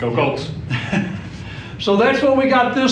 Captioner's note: laughing